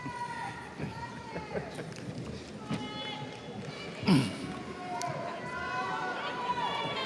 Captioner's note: students yell indistinctly